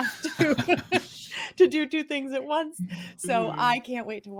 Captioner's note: all laugh